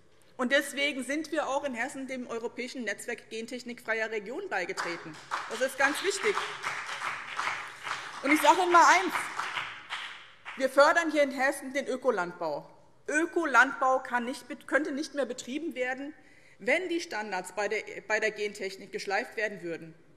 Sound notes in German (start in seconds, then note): 4.7 Beifall BÜNDNIS 90/DIE GRÜNEN